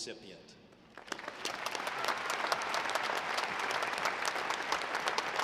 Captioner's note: audience applauding